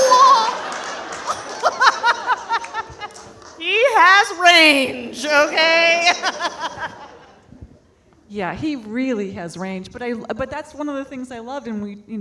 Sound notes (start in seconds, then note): 0.0 audience laughing; 0.0 laughs